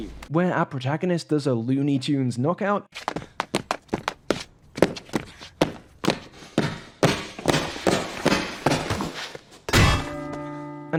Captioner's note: clip - *running sounds, then loud metallic clang